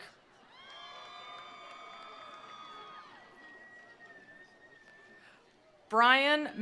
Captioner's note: attendees applauding; attendees cheering